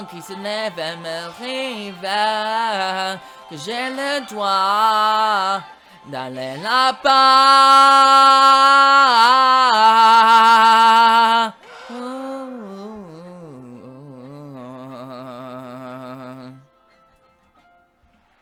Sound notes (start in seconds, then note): 12.1 hums